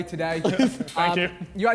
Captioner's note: men laughing